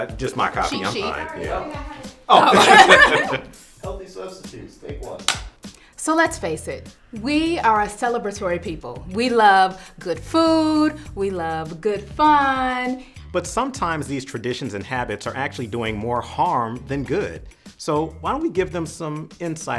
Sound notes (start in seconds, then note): 0.6 offscreen crew chatter; 2.4 laughter